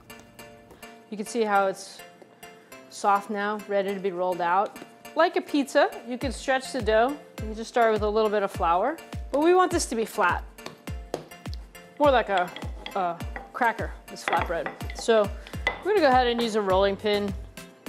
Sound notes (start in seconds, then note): 10.6 smacks dough